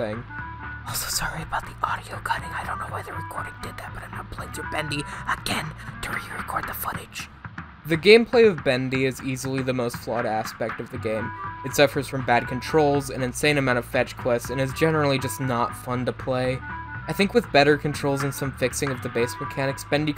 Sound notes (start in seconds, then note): 0.2 whispering; 7.0 normal voice